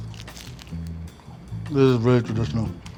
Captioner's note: egg roll crunching